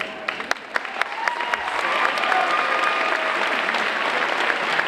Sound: audience applauding

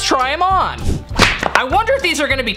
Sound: whoosh

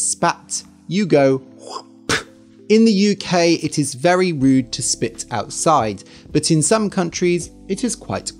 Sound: spits

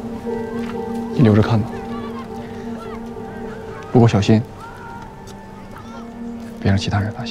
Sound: speaker speaking in foreign language

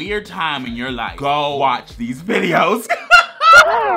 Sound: cackles

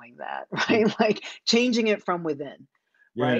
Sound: chuckles

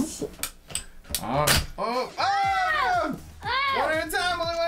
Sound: dad and Lizzy yelling

